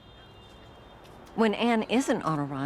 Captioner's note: city sounds